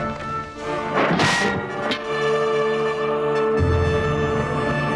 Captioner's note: sword smacks